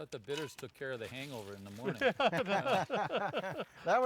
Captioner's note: group laughing